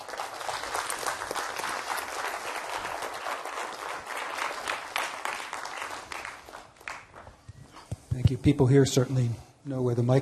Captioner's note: applause